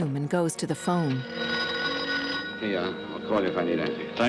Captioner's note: phone ringing